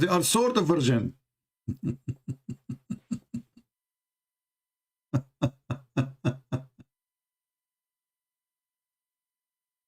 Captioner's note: Ketawa